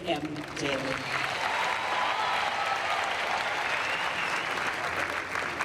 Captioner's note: crowd applauds